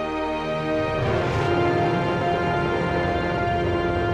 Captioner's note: rocket firing